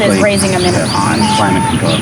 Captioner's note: chicken cackle